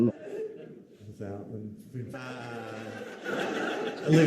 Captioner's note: crowd laughting